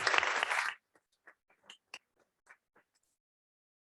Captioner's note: applause